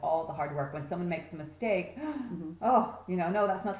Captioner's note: gasp